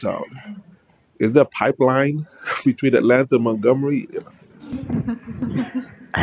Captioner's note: laughter